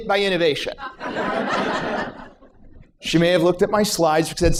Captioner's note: laughter